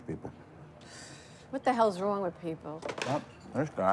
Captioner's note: sighs